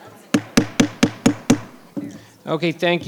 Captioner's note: gavel bangs